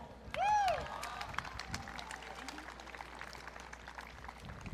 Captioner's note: audience cheering